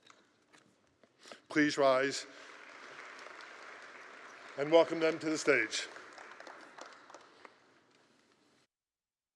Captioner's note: applause